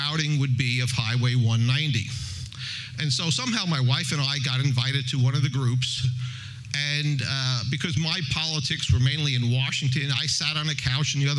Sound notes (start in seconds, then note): none